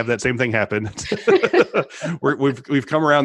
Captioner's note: laughs